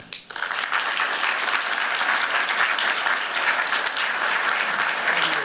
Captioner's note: applause